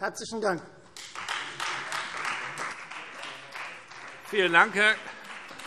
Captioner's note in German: Beifall Freie Demokraten